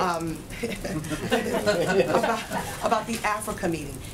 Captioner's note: laughter